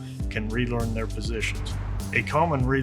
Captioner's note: slide whooshes